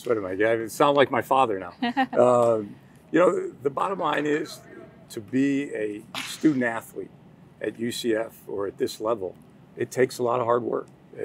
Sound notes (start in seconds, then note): 1.8 laughing